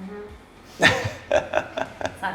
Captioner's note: laughs